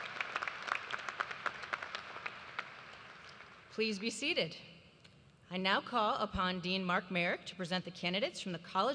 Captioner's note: applause